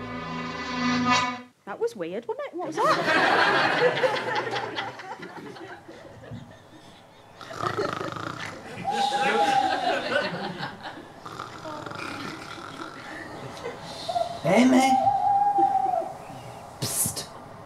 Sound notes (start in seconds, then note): 2.4 audience laughter; 7.4 snoring; 8.4 owl hooting